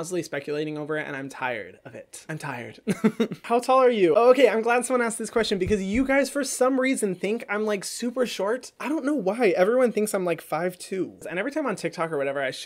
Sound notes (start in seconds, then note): 2.9 laughs